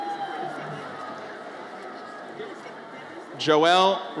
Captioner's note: audience cheers